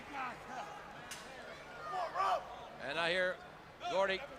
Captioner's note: crowd chatter